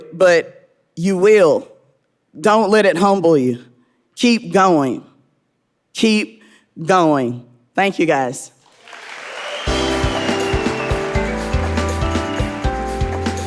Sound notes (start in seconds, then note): 8.6 audience applauding; 9.4 upbeat music